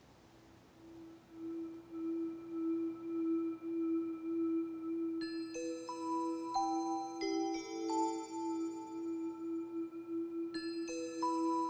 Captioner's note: bells ringing